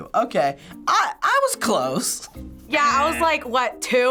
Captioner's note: laughs